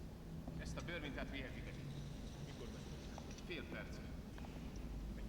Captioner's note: men talking